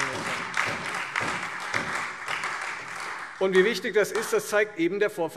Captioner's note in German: Lebhafter Beifall Freie Demokraten, SPD und DIE LINK